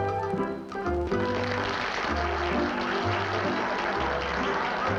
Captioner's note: applause